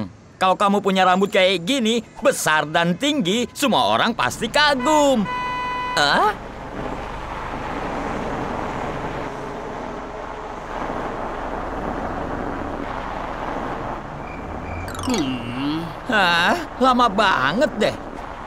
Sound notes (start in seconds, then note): 4.5 car honks